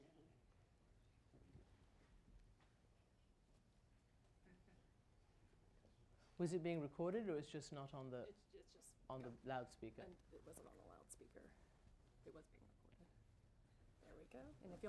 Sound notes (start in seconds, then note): 11.2 audio break